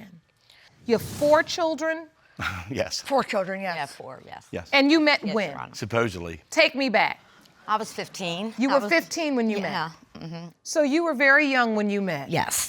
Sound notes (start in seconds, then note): 1.6 chuckles